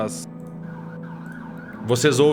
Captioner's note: police siren in the background